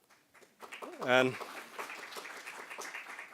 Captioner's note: applause